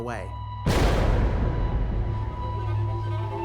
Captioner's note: booming impact